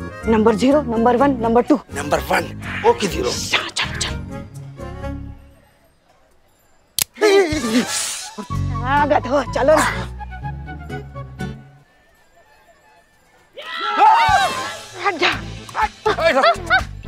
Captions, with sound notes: Number zero, number one, number two. Number one. Okay. Let's go. [gasping] What are you doing? [screaming] Move!